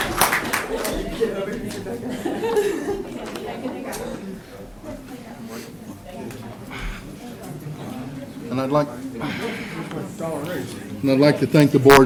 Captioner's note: applause